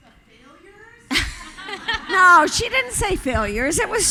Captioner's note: audience laughing